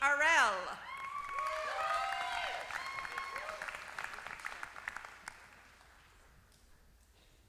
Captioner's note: applause